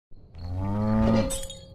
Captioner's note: cow moos; glass breaks